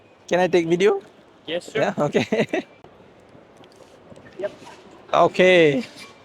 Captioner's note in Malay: ketawa